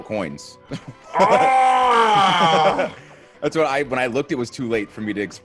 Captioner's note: laugh